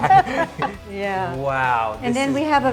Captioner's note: laughs